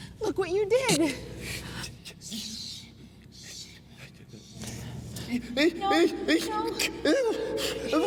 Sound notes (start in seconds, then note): 5.3 Jeb sobbing; 6.8 Robert whimpering